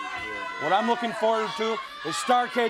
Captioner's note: crowd cheering